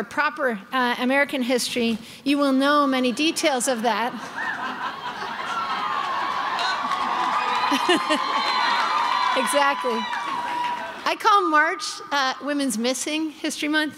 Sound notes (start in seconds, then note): 3.1 crowd laughing and cheering